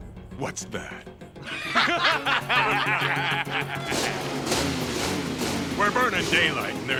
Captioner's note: all laughing